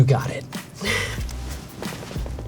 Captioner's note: exhales